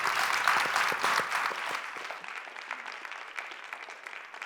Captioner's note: applause